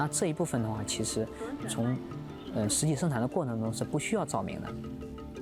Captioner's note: speaking chinese